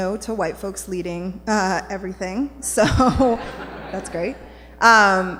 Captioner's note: laughter